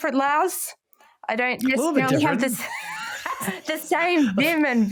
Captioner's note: laughs